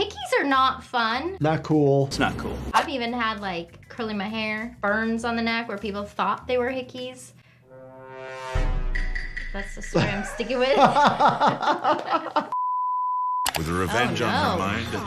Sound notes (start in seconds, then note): 7.5 ominous music; 9.9 laughing